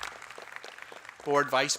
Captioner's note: applause